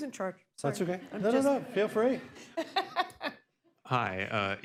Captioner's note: laughter